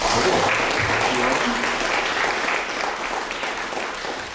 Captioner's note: applause